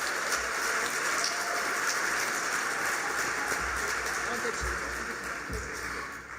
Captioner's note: applause